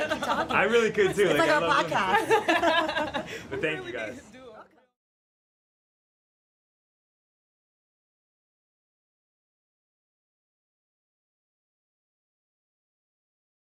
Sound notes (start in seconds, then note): 0.0 laughter